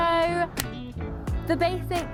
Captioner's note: clap